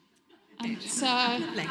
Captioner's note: audience laughs